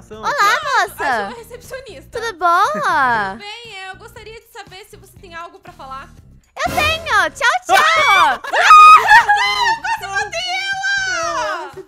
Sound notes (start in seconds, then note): 2.4 laughing in the background; 7.7 screams and laughter